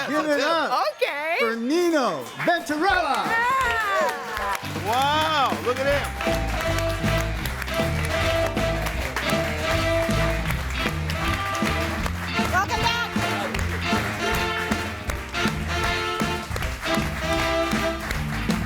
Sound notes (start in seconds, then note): 3.2 audience applauding; 6.2 bright swing music